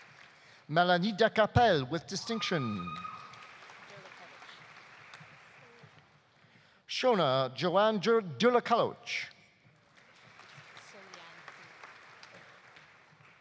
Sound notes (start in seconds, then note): 2.1 audience cheering; 2.2 audience applauding; 9.8 audience applauding